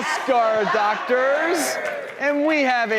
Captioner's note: cheering